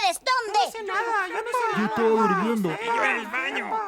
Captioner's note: mumbling about their innocence